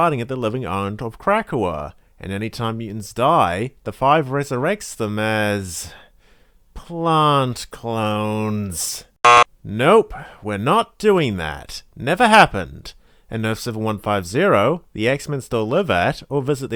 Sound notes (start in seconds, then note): 9.2 buzzer sound